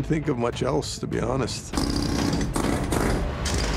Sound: jackhammer whirring

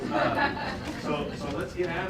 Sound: laughter

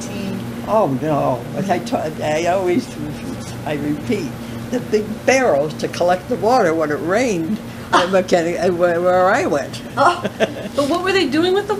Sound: laughter

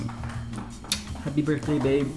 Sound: lips smacking

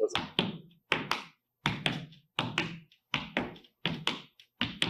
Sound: footsteps tapping

